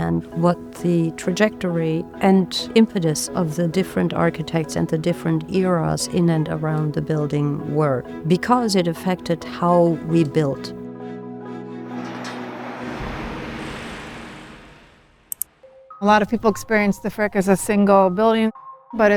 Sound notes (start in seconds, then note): 11.4 sounds of machinery